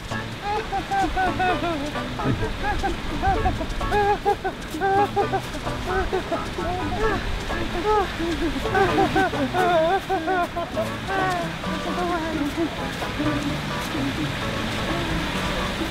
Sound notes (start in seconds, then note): 0.3 giggling; 8.5 more giggling